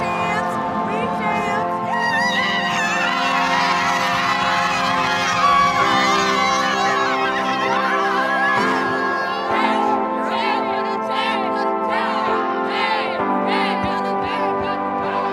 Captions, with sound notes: We champs, we champs. [PLAYERS SCREAMING AND CHANTING]